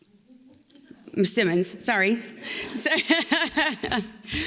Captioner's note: laughs